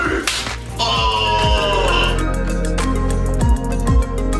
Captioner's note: groans